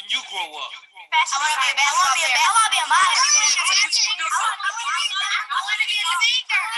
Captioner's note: kids talking over each other